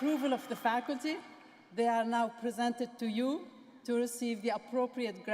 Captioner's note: cheers